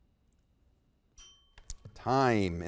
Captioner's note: bell rings